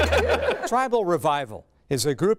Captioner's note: laughing